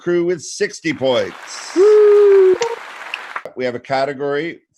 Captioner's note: applauding